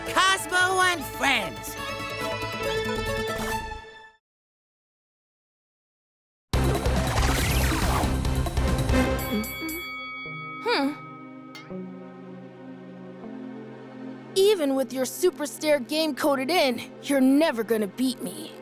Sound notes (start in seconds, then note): 6.6 energetic music; 9.2 bell dinging; 11.0 intense music